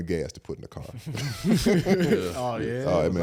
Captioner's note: all laugh